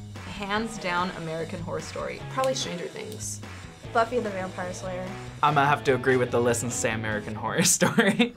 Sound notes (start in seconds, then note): 7.8 chuckles